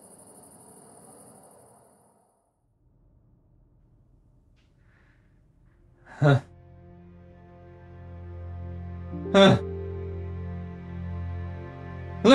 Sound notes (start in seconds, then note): 6.1 grunt; 9.2 grunting, mumbling